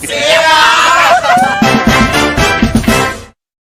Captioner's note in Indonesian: berteriak